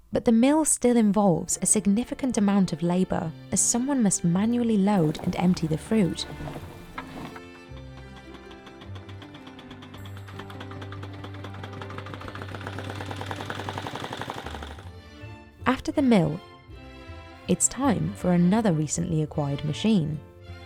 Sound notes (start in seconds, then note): 6.7 generator whirring; 6.7 gentle music